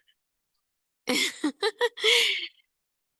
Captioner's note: laughs